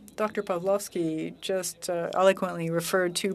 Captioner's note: speaking French